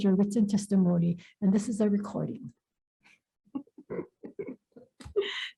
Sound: laughs

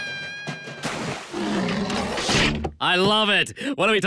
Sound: splash; roar

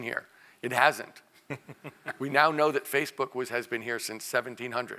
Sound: laugh

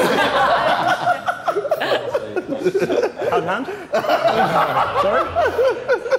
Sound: Sidemen laugh hysterically

